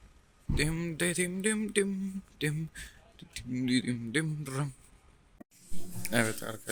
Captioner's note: dramatic humming noises